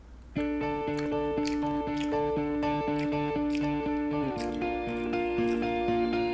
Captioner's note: uplifting music; chewing